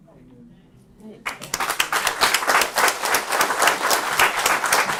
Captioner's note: applause